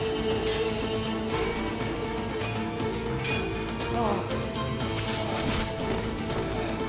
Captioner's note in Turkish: Müzik - Aksiyon; Kılıç sesleri